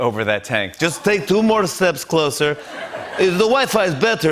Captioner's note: Russian accent